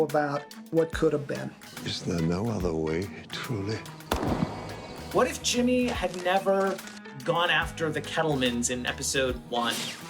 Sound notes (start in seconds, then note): 4.0 gunshot